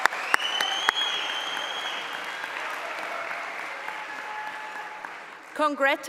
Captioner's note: cheering; applause